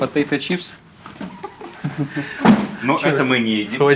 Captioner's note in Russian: смех